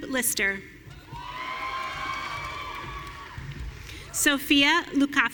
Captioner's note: audience cheering